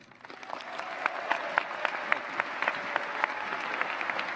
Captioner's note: cheers, applause